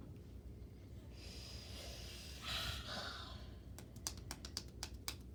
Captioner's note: exhales forcefully; hands tapping